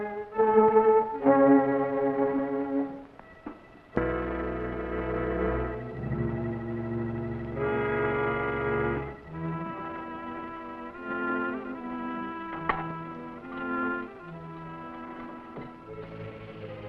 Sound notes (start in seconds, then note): 1.3 dramatic music; 4.1 suspenseful music; 12.6 sconce clangs; 16.2 dramatic music; 16.2 serpent rattling